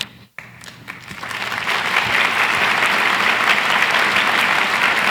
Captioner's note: audience applauds